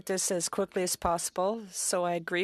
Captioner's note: speaking French